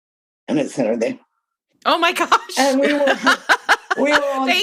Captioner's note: laughter